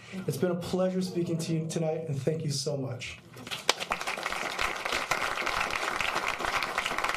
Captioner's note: applause